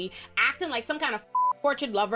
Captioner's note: beep